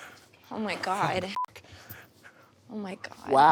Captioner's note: beep